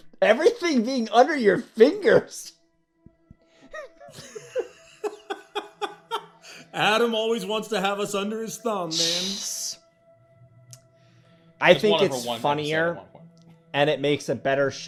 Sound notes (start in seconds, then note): 2.1 laughing